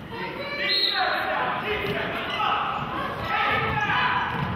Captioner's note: whistle blows